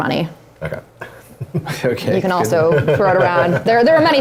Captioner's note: laughs